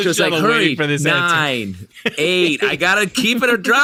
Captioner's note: laughing, crosstalk